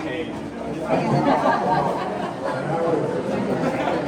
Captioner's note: chatter